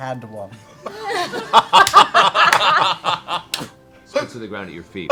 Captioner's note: laughter